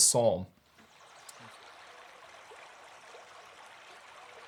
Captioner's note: brook bubbling